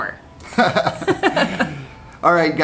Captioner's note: both chuckling